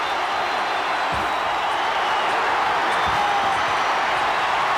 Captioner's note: audience cheering